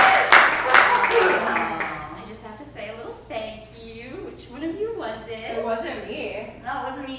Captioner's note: applause